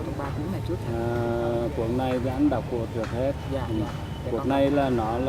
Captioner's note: speaks in foreign language